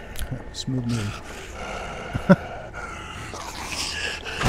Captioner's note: chuckle